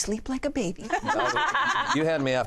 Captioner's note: laughter